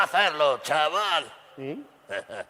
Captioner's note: laughs